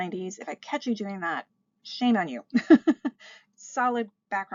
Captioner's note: laughs